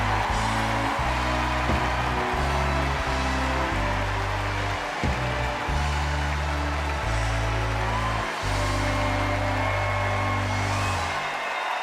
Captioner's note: cheers and applause